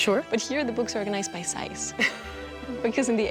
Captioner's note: laughs